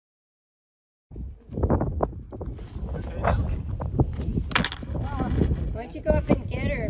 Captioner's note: wind